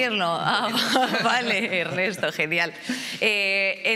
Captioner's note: laughing